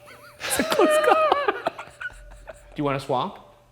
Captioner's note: both laughing